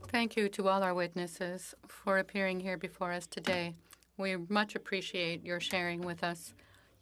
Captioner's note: speaking French